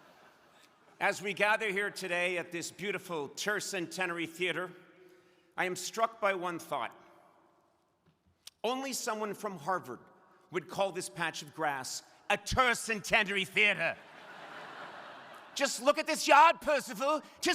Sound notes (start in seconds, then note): 13.9 crowd laughing